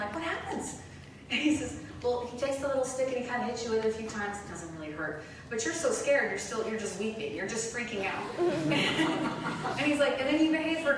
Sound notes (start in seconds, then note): 8.4 laughter